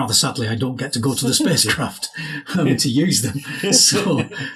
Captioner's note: laughs